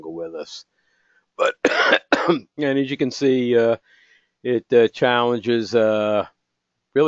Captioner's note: cough